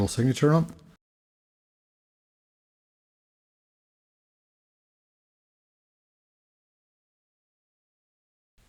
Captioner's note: silence